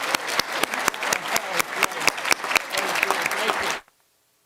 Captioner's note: applause